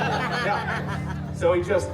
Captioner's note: guests laughing